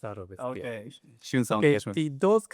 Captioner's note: speaking in Japanese